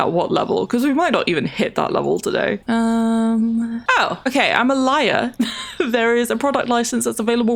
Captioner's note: laughs